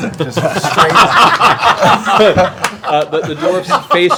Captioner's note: laughter